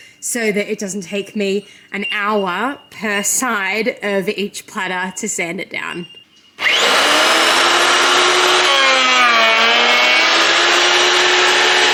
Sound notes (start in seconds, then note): 6.6 planer surges